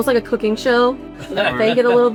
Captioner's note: laughs